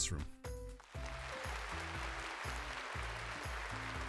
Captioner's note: applause